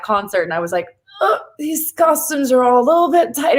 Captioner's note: none